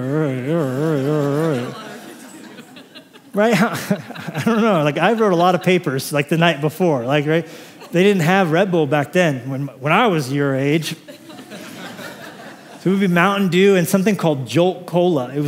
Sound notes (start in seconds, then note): 1.4 laughter